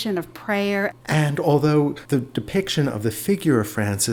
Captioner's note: voiceover